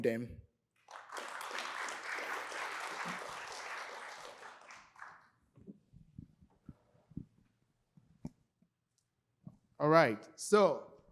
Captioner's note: applause